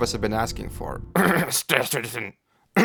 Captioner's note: cough